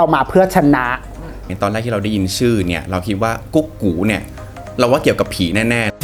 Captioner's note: ghost sound